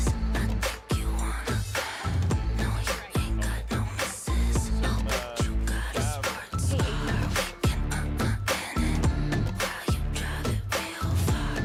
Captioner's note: cheering and applause